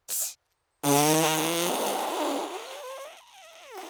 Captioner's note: blows raspberry